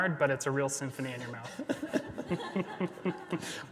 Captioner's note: both laughing